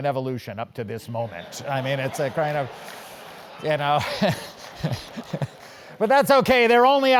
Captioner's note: laugh